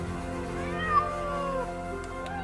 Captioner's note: meowing